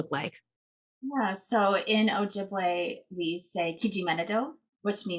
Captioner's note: speaking foreign language